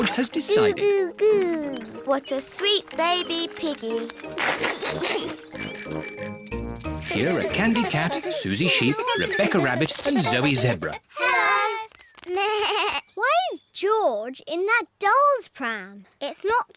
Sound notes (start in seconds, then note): 5.0 giggles; 6.0 bicycle bells tinkle; 13.0 bleats